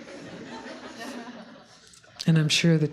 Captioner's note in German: Gelächter